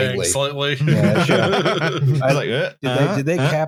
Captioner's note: laughter